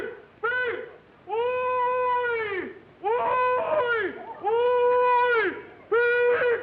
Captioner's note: hollering